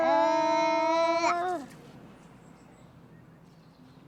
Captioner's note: more humming